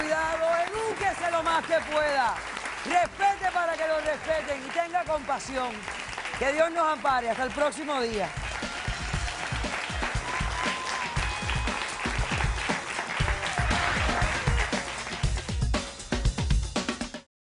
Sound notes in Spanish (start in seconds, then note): 11.5 Aplausos